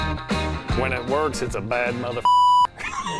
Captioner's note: slow instrumental music; beep; laughing